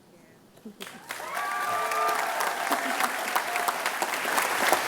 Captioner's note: applause